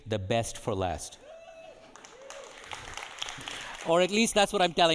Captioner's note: audience cheering and applauding